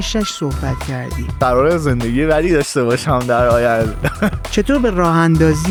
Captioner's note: laughs